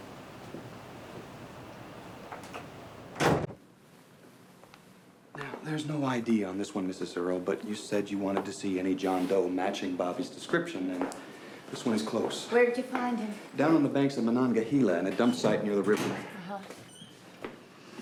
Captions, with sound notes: (door thudding) - Now, there's no ID on this one, Mrs. Earl, but you said you wanted to see any John Doe matching Bobby's description. And this one is close. - Where did you find him? - Down on the banks of Monongahela in a dump site near the river. - Uh-huh.